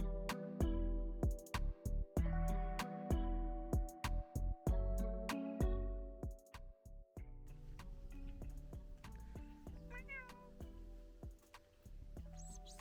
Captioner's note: making cat noises to the cat